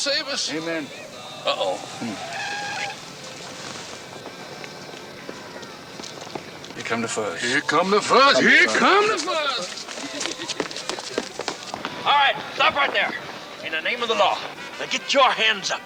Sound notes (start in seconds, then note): 2.1 tires squealing; 10.5 Charlie chuckles